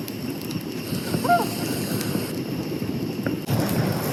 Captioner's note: loon calls